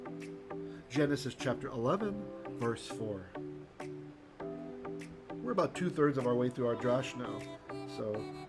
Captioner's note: Hebrew